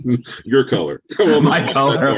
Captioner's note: laughing